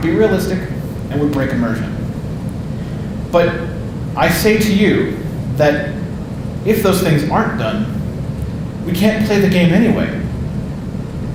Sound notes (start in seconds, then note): none